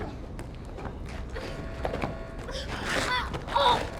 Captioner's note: Megan moaning